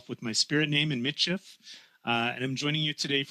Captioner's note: speaking French